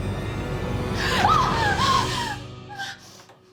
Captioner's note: screams